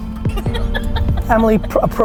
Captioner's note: laughing